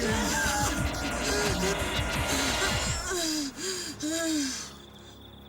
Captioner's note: breathing heavily